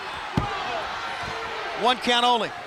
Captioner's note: countdown thudding